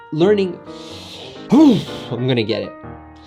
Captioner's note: sigh